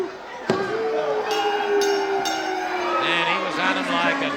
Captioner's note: bell rings